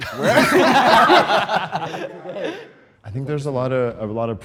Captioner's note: group laughs